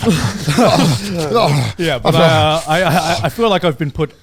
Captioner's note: moaning